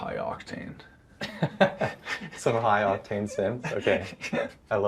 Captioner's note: chuckling